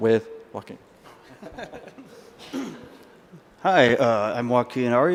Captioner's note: laughs